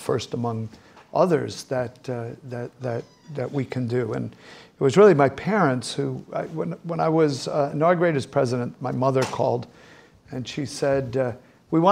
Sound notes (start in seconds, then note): none